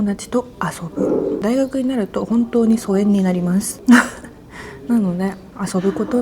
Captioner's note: laughs